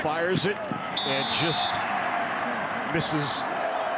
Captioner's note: referee blows whistle